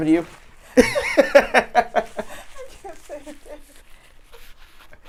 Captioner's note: laughing